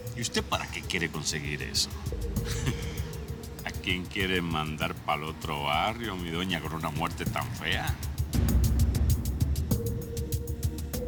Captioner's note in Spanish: risas